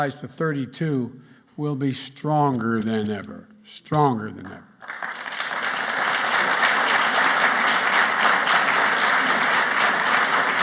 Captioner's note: applause